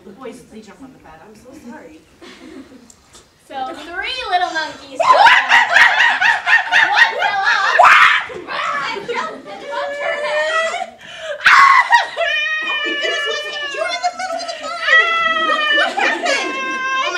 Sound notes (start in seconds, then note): 5.1 monkey noises; 11.4 crying monkey